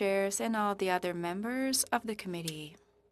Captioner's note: speaking French